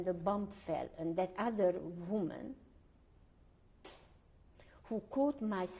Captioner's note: pauses for 3 seconds